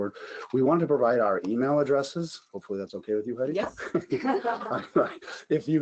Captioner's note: laughs